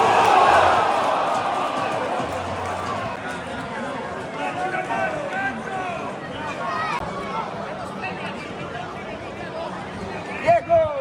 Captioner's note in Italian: Applauso